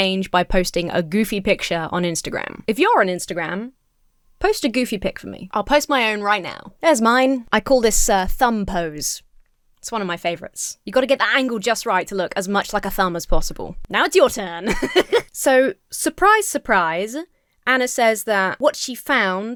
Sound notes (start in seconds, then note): 14.6 giggles